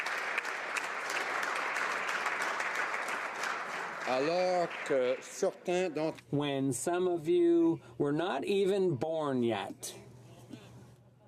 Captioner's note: some Applause